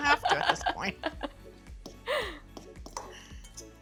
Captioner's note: laughs